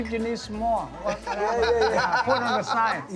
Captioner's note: laughs